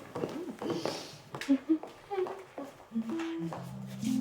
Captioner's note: humming a song